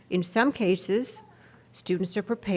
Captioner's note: none